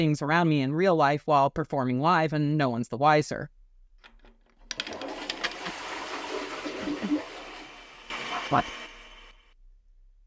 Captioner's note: flushes toilet